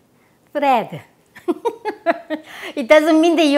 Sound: laughs

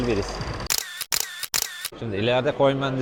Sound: camera sound

